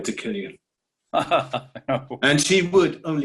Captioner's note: Garak laughs